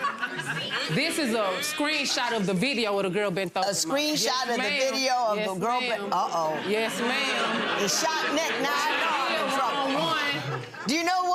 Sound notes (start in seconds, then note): 0.0 audience talking and laughing; 6.2 audience laughing